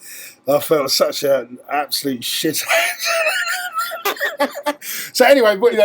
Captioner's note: laugh